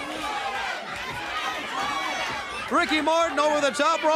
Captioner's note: crowd cheering